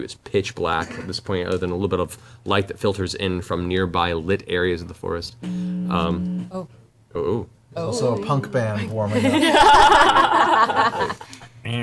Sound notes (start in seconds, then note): 5.4 audible feedback; 8.9 all laugh